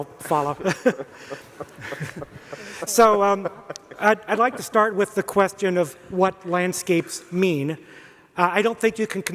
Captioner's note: panelists laugh